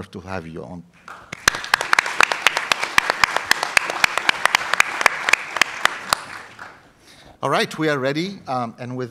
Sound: applause

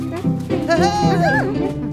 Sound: cheers

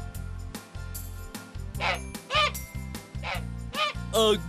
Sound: sound of a goose

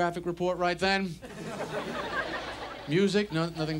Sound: audience laughs

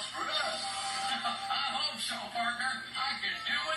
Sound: laughs

